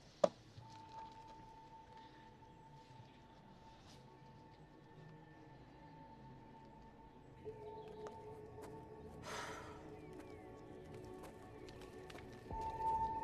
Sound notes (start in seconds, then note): 0.5 soft, eerie music; 9.2 exhaling